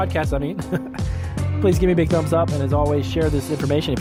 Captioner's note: laugh